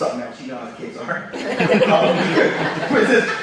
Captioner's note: audience laughs